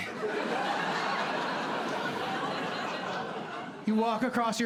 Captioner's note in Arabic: ضحك